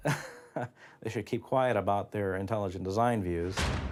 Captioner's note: laughs